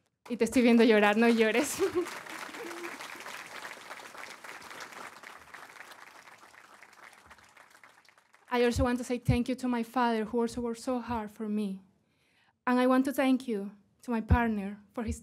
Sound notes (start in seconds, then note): 8.5 applause